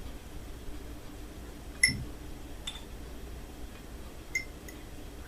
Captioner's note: stirs tea